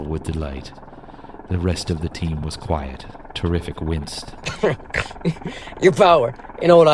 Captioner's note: nearly bursting with laughter